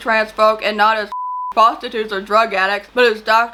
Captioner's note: beep